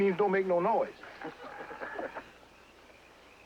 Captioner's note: men Chuckling